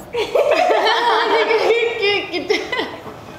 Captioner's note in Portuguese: risos